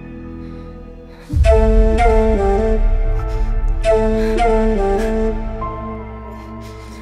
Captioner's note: sobbing